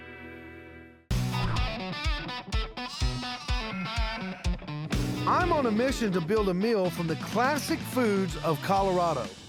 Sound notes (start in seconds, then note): 2.7 baaing